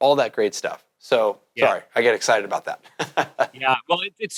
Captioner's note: laughs